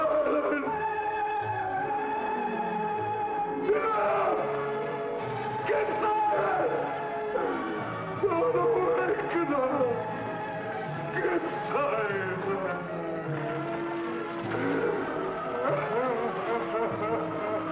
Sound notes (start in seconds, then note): 0.0 screaming; 8.9 sobbing; 14.4 sobbing